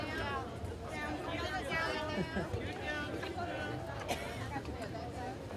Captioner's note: lively chatter